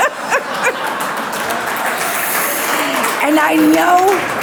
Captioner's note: audience applauds; audience laughs; laughs